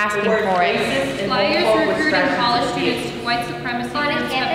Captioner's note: group chattering